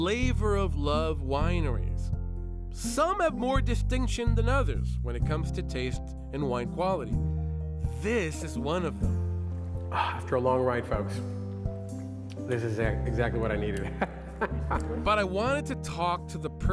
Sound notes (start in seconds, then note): 9.7 swallow sound; 13.7 chuckles